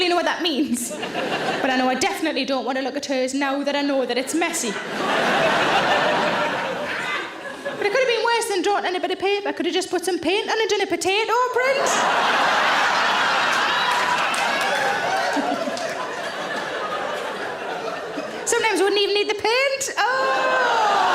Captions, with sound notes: I don't really know what that means, but I know that I definitely don't want to look at hers now that I know that it's messy. (audience laughs) But it could have been worse than drawing it on a bit of paper. Could have just put some paint on and done a potato print. (audience laughs) Sometimes wouldn't even need the paint.